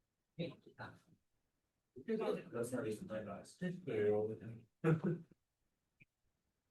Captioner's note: speaking Mandarin